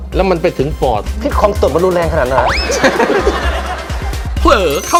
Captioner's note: laughing